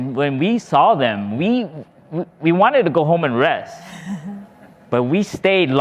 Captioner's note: laughing